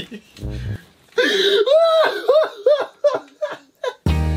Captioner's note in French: Fou rire